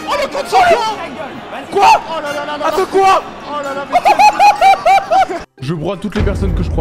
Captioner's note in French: Rires